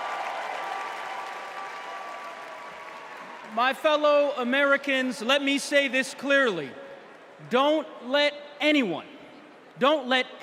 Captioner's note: cheers and applause